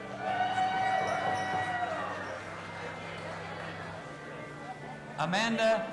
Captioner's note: audience applauding and cheering